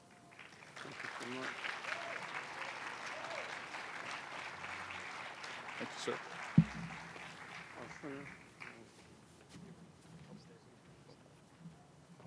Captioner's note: applause